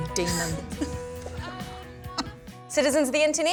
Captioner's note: laughter